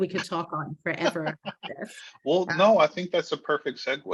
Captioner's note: laughing